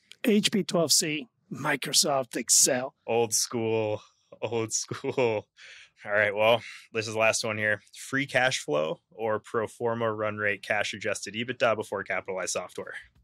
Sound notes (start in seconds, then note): 4.8 laughs